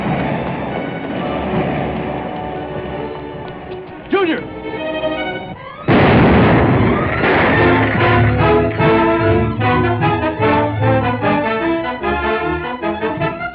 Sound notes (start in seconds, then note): 5.8 explosion; 6.9 fast-paced music